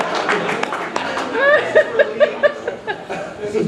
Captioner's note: laughing